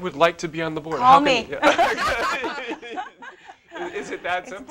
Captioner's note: laugh